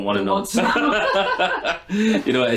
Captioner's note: laughing